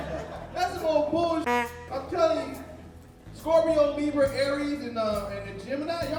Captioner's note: honk